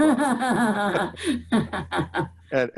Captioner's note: laughter